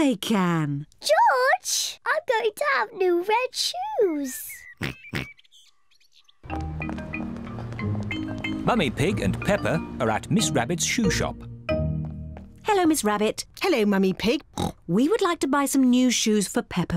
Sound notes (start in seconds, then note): 4.8 oinks; 14.5 oinks